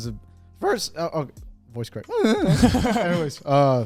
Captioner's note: laughs